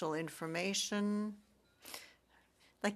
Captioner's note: speaking French